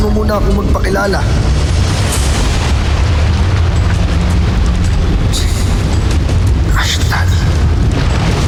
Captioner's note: whooshing & swirling; whooshing & swirling